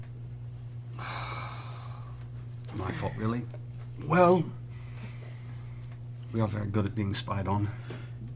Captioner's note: sighs